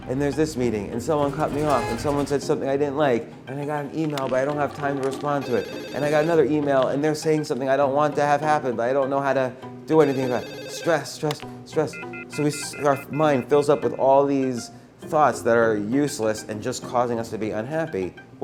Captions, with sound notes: and there's this meeting and someone cut me off (horn honking) and someone said something I didn't like and I got an email but I don't have time to respond to it. (telephone ringing) And I got another email and they're saying something that I don't want to have happen but I don't know how to do anything about it. (phone rings again) Stress stress stress. (busy signal) So our mind fills up with all these thoughts that our useless and just causing us to be unhappy.